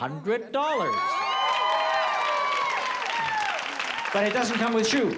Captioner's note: screaming